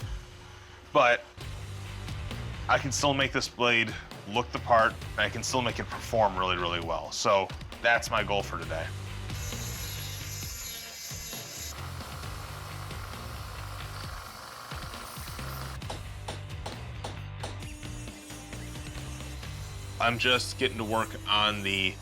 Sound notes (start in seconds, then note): 9.3 grinding; 14.6 hammering